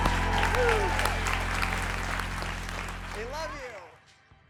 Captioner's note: audience applauds